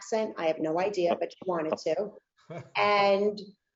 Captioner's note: laughing